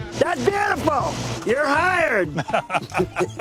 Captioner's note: laughs